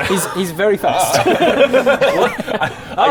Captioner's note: futile laughter